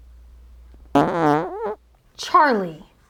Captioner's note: farting sound